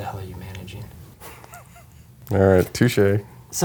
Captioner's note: laughs